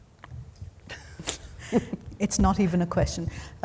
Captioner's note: chuckling